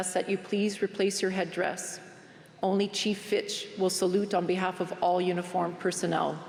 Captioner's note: speaking french